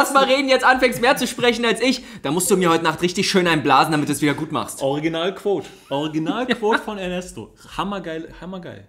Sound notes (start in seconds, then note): 5.7 laughs